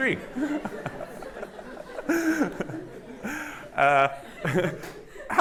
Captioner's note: all laughing